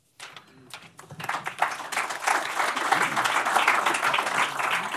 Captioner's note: applause